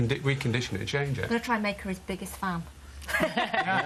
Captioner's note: laughter